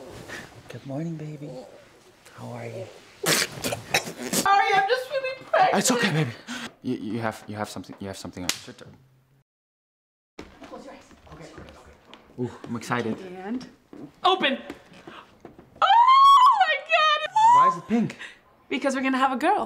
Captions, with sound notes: Good morning, baby How are you? Pffffftftftftftftff (cough) Sorry, I'm just feeling pregnant (gasp) It's okay, baby (gasp) Y-y-you have-you have-you have something your-(smack) shut your- Close your eyes, close your eyes Ok, ok, ok, ok, ok Oof, I'm excited And... open! (gasp) Ooooooooooh my god! (screeches) Why is it pink? Because we're gonna have a girl